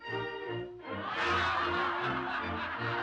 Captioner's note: audience laughs